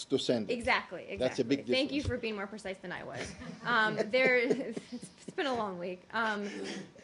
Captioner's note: laughter